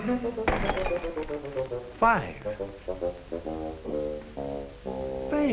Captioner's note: glass shattering